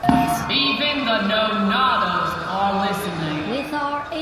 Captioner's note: quiet yell